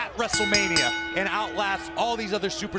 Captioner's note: bell ringing